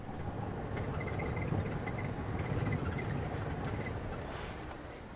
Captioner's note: truck rumbling